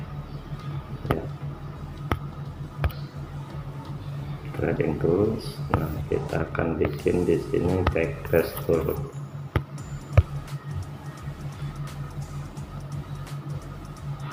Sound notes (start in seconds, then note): 2.1 clap